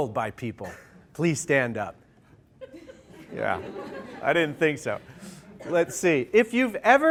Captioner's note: laughter